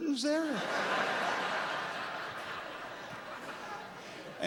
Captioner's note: laughter